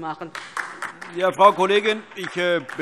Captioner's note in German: Beifall DIE LINKE